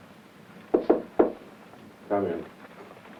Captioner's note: knocks on door